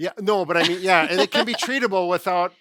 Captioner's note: laughing